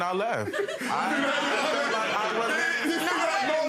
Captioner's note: laughing